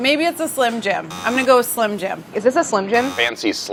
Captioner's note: buzzing; buzzing